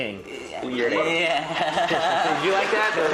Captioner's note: nervously laughing